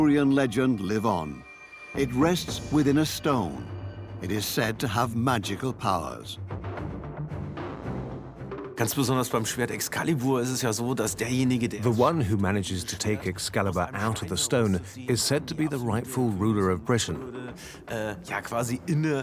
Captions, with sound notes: from the Arthurian legend live. It rests within a stone. It is said to have magical pow. (in German) (dubbed in English) Whoever takes Excalibur out of the stone is said to be the rightful ruler of Britain.